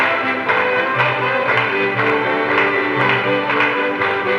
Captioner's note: people clap